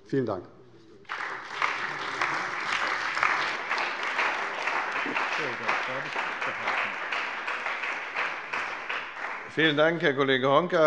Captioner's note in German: Beifall bei der CDU und dem BÜNDNIS 90/DIE GRÜNEN